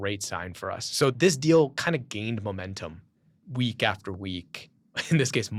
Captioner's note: laughs